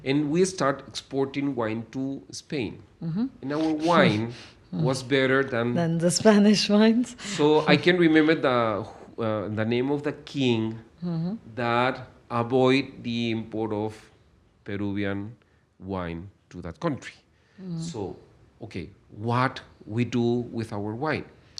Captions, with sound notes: And we start exporting wine to Spain. Mm-hmm. [laughs] And our wine was better than- Than the Spanish wines? [laughs] So I can remember the, uh, the name of the king- Mm-hmm ... that avoid the import of Peruvian wine to that country. Mm-hmm. So, okay, what we do with our wine?